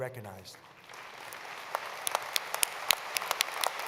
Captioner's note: applause